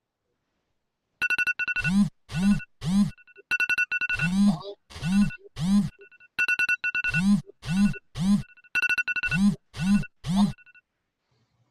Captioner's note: alarm bell ringing